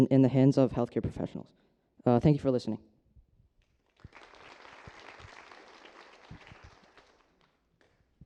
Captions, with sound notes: in the hands of health professionals. Thank you for listening. [APPLAUSE]